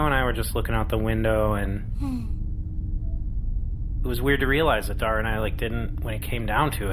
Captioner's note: glumly; sighs quietly